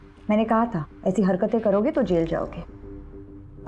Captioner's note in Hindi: none